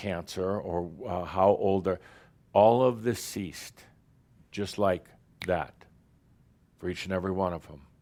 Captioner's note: snap!